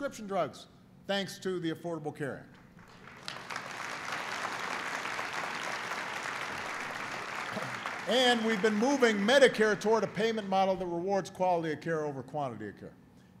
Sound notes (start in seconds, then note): 3.9 applause